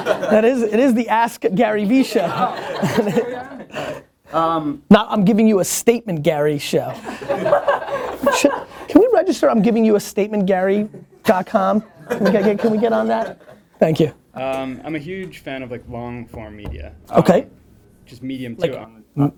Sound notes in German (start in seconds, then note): 0.0 Lachen; 7.0 Lachen; 13.0 Voice-over